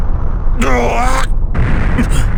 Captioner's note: panicked groan